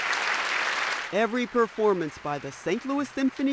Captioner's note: applause